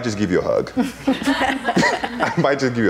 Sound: laughing

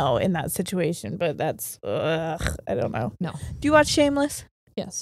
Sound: groans

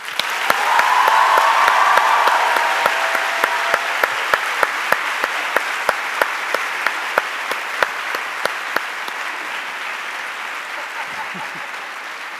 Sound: cheers and Applause

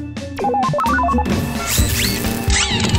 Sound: robot beeping; electrical buzzing

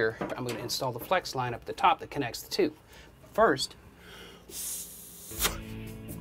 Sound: blowing

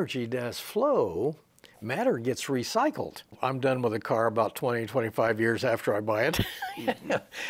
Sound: laughs

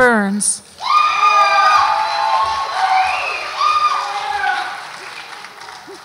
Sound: audience applauds and cheers

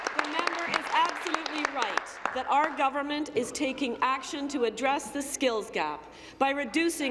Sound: applause

